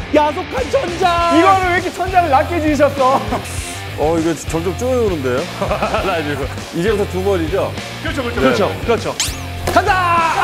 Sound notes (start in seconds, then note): 5.4 hahaha